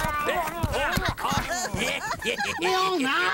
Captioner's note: yells; laughing and yelling